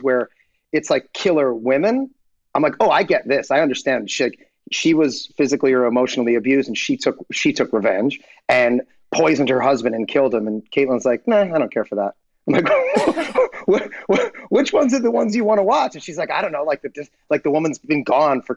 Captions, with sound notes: where it's like "Killer Women," I'm like, oh, I get this, I understand shit. She was physically or emotionally abused, and she took revenge and poisoned her husband and killed him, and Kaitlin's like, nah, I don't care for that. (Rob, laughing) I'm like, which ones are the ones you wanna watch? And she's like, I don't know, like the woman's been gone